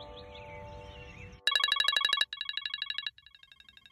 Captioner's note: beacon alarm